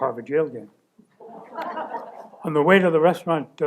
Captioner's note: laughter